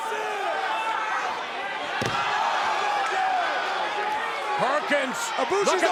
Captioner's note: crowd shouting